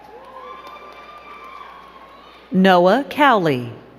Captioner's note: crowd cheering and clapping